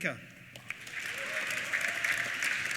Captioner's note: applause; cheers